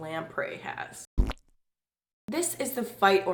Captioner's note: farting sound